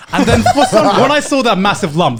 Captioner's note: laughing